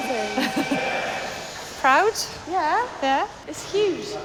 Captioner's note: laughs